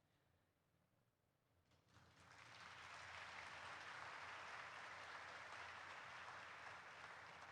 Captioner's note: applause erupts